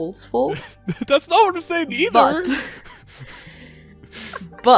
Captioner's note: laughing